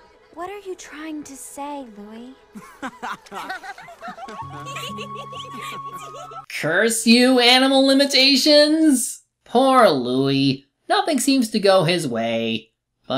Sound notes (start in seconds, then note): 2.6 other swans laughing to themselves